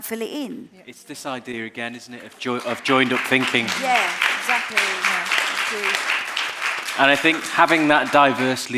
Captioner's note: applause